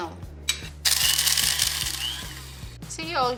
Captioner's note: machine whirring